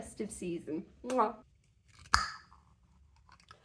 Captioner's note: pop; kiss